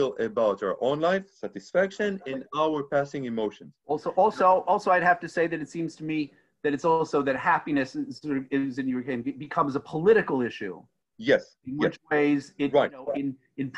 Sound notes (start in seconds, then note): 8.3 microphone muffling speech